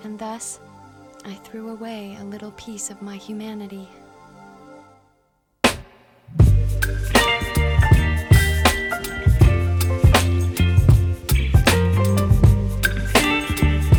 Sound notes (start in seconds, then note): none